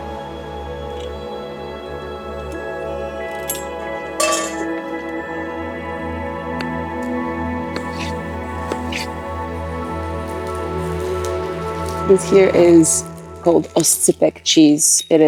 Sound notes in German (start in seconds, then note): 0.1 sanfte Instrumentalmusik geht weiter; 4.1 Pfannenklirren; 5.9 sanfte Instrumentalmusik geht weiter